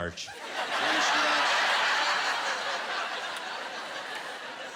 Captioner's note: laughter